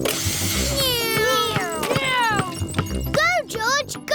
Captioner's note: whirring